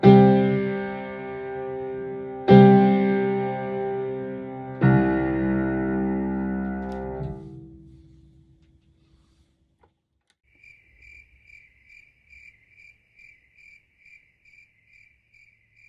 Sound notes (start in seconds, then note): 10.4 crickets chirp